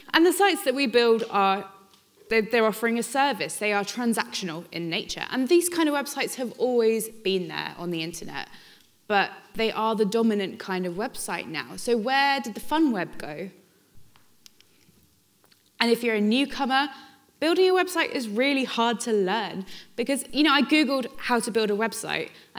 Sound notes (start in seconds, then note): none